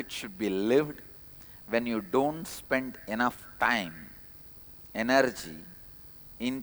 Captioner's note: hindi